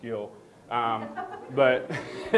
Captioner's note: people laughing